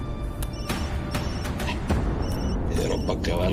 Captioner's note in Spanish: Suena el celular